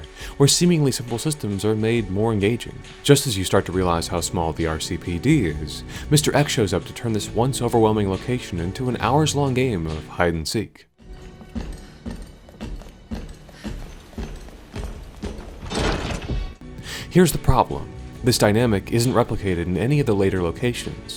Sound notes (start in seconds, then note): 11.0 Mr. X stomps around menacingly in the background